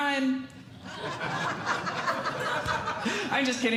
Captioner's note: audience Laughing